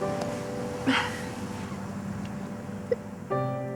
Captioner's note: Melinda crying